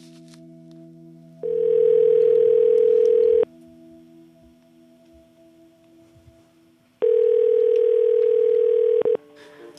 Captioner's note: phone ringing